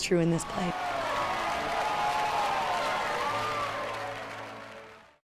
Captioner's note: applause and cheering